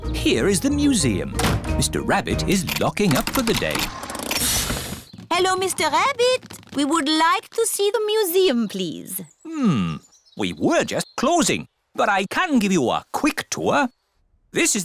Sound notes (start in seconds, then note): 4.2 engine stops